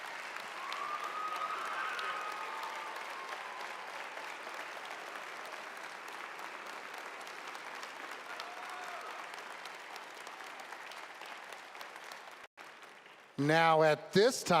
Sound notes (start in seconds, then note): 3.4 applause